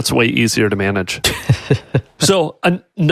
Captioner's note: laughing